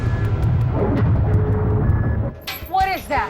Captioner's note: beeping